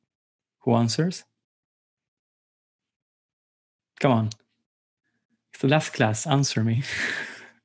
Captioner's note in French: rires